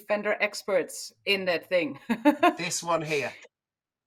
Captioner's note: laughs